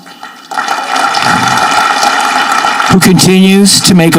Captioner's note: audience clapping